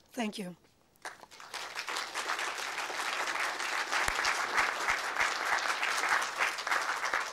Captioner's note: applause